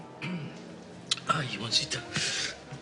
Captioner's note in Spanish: Carraspea